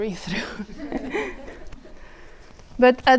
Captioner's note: audience laughing